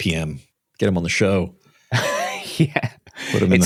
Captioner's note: laughs